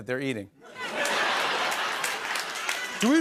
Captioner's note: laughter